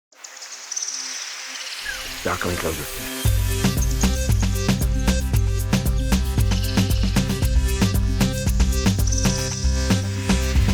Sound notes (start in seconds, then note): 0.4 birds chirping; 2.2 upbeat music